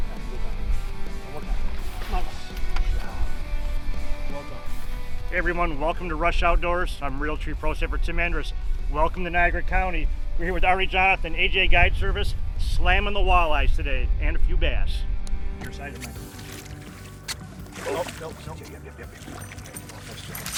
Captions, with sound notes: (fish talking softly) - Hey everyone, welcome to Rush Outdoors. I'm Realtree Pro, Tim Andrus. Welcome to Niagara County. We're here with Arnie Jonathan, AJ Guide Service, slamming the walleye today and a few bass. Your side. (fish flapping) - No, no, no.